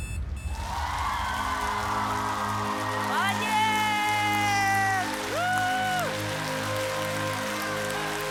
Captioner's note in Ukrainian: оплески